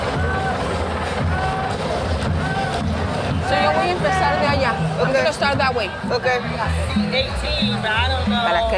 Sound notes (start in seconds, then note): 1.5 helicopter chopping; 1.5 person yelling; 4.1 speaking in Spanish